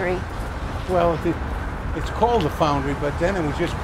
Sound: voiceover

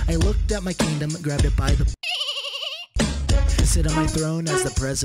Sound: dolphin noise

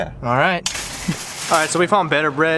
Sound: laughing

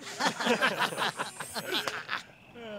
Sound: laughing

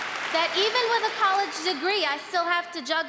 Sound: applause

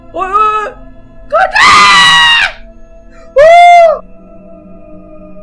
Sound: panicking

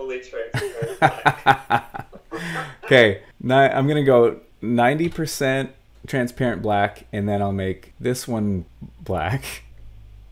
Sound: laughs

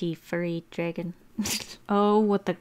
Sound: snort

